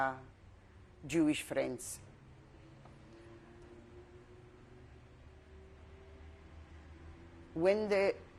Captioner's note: pauses for 6 seconds